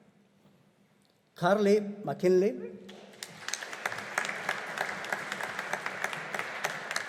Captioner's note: audience applauding